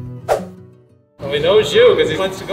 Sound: screen swooshes

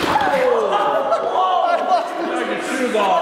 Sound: laughing

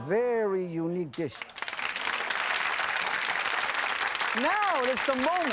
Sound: applause

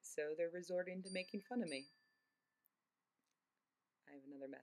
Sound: cell phone ringing

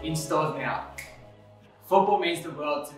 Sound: Josh finger snaps

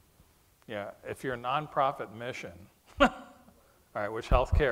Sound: chuckles

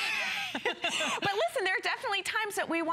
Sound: laughter

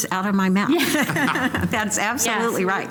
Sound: laughter

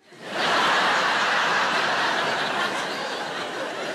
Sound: audience laughing

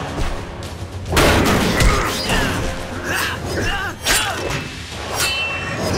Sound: grunting

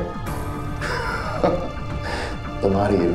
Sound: chuckles

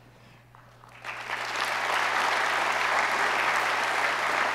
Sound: audience applauds

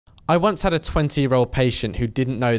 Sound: voiceover

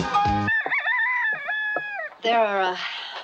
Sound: rooster crows

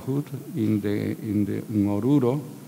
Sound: speaking in a foreign language

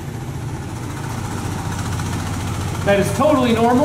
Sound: whirring

